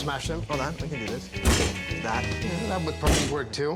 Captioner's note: table banging